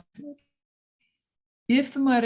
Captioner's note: radio interference drowns out speaker